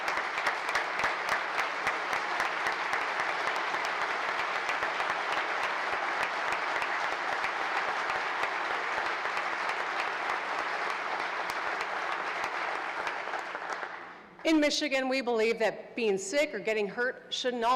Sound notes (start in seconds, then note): 2.2 applause